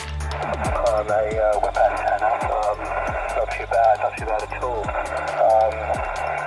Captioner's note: radio